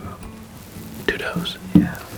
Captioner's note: whispering